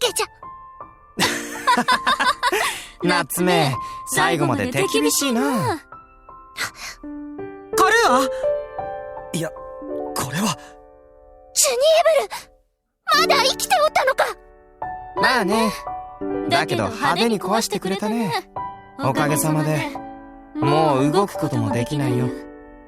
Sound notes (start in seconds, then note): 1.5 laugh; 7.0 gasp